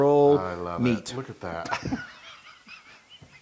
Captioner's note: laugh